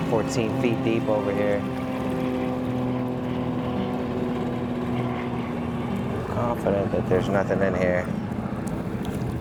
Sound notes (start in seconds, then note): 1.8 gentle music continues; 1.8 motor droning